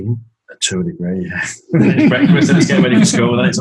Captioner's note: laughs